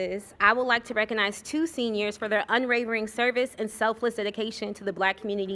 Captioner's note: none